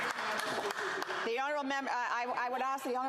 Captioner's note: applause